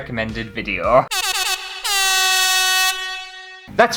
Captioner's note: air horn!!